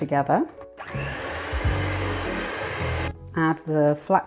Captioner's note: mixer hum